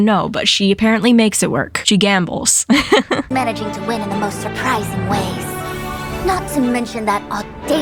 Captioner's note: laughs